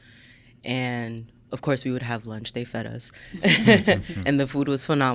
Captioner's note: laughs